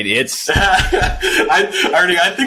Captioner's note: laughs